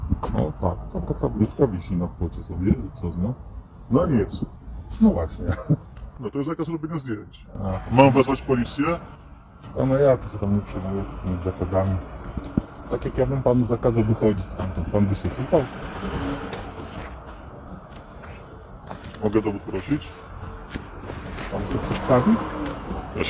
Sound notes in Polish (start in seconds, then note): 5.4 śmiech